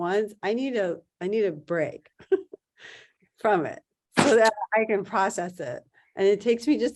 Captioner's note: laughs